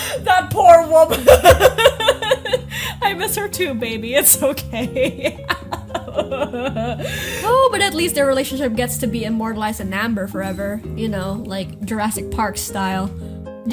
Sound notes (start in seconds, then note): 1.1 sob laughs; 5.4 cries